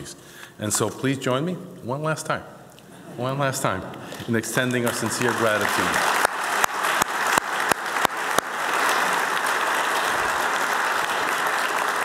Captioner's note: applause